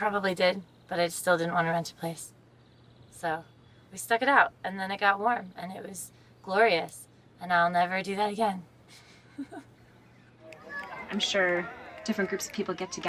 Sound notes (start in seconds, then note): 8.9 laughs